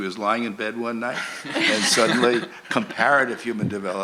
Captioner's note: laughter